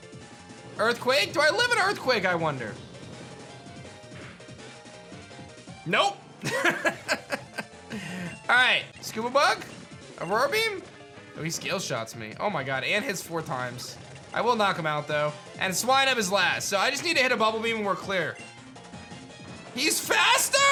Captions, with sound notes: Earthquake. Do I live an Earthquake, I wonder? Nope. (chuckles) All right. Scubabug. Aurora Beam. Oh. He Scale Shots me. Oh my god. And he's four times. I will knock him out, though. And Swinub is last. So I just need to hit a Bubble Beam and we're clear. He's faster.